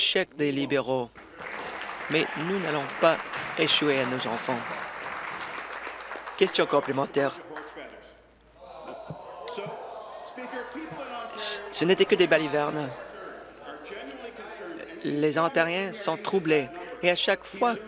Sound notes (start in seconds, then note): 8.8 applause